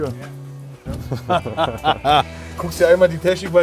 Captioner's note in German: Tiefes Lachen